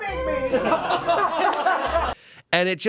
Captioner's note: everyone laughs